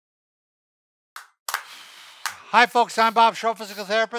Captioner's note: both clapping hands